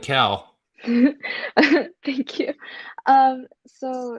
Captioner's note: laughs